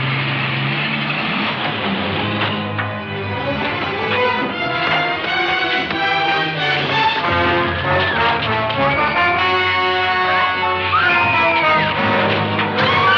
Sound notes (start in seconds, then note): 2.3 tense music; 7.6 women screaming